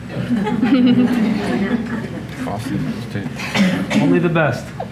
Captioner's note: audience laughing